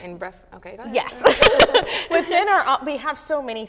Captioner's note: laughter